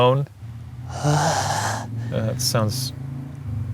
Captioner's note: moans